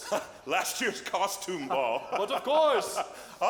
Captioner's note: laughs